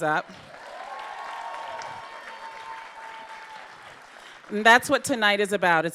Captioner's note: audience cheering